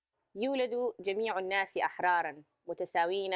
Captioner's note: speaking arabic